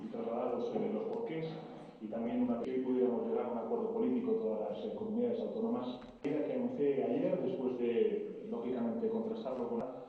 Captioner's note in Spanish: se escucha la voz en off del presidente Sánchez